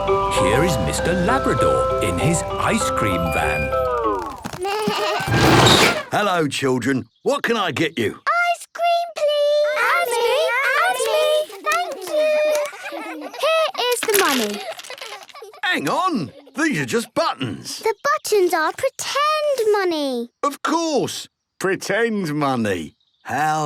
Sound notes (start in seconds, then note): 5.1 bleating, trumpeting